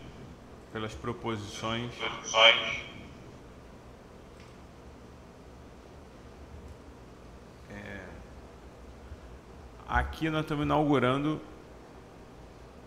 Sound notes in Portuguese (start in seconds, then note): 2.0 Silêncio